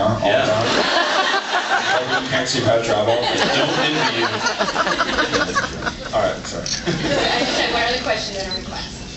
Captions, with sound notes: Yeah. All the time. [laughs] Like when you can’t see out your eyeball? I don’t envy you. Yeah, I’m sure. All right, sorry. I just have one other question then a request.